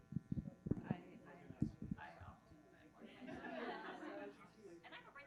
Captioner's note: groups chattering